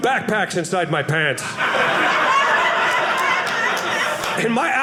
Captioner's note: audience laughing